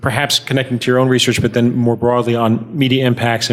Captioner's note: none